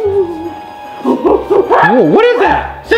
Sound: gorilla growling

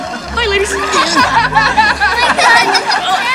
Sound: laughing

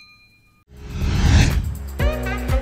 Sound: notification bell rings; air whooshing; lively upbeat music

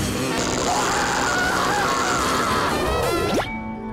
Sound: screaming

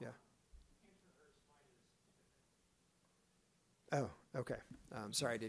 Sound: speaks faintly

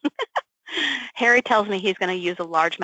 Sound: laughs

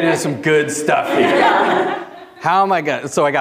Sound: audience laughing

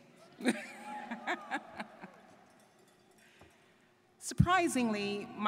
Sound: laugh; students cheering

